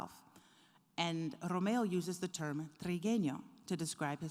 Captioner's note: speaking foreign language